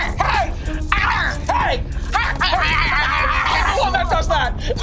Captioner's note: Lori and Abby growling